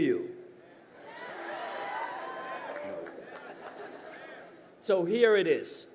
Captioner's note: crowd cheering